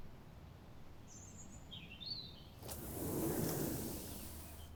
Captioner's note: birds chirping